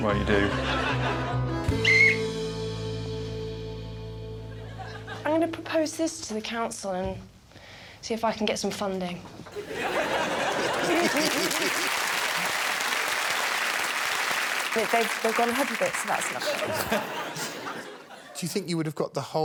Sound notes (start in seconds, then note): 1.7 whistle blows; 9.5 laughter; 12.8 applause